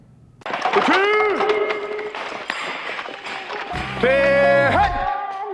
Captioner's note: rattling; indie pop music